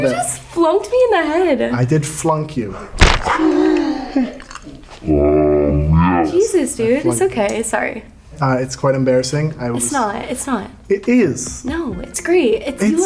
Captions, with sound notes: - You just flunked me in the head. - I did flunk you. (finger flicking) (sound effects groaning) - Jesus, dude. It's okay, sorry. - It's quite embarrassing. I was- - It's not, it's not. - It is. - No, it's great.